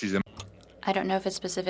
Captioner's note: speaking French